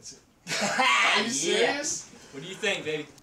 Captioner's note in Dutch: John lacht